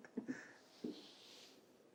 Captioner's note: laughs